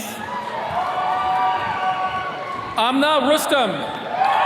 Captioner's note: attendees cheering